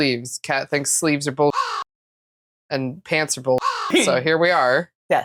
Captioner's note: caw